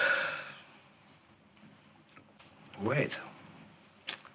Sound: Herod sighiflg

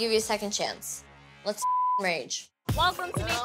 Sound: beep

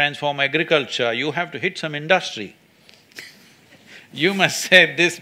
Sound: laughs

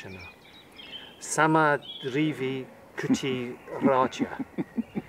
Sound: laughter

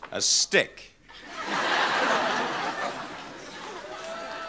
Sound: audience laughing

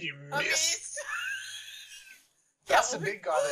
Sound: laughs in asthmatic

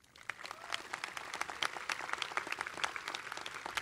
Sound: crowd clapping

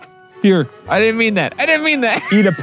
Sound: laughs

